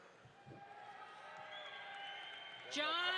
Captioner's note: audience applauds